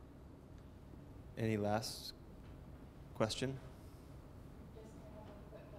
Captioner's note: voiceover; chatter